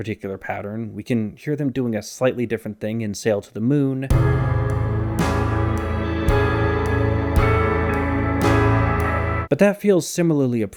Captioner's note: bang